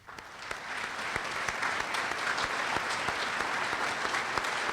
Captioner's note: applause